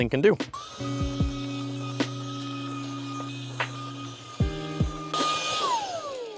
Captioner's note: vacuum noises